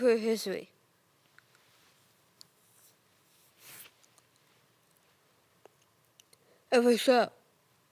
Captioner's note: rustling; soft breathing